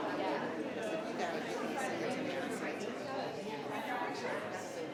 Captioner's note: people chattering